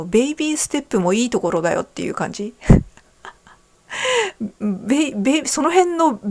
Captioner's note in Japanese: 笑い